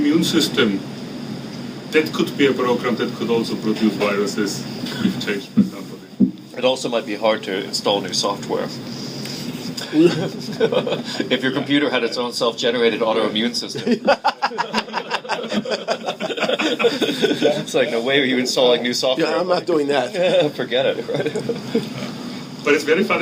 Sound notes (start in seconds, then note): 6.9 laughing; 13.7 laughing; 18.0 chuckles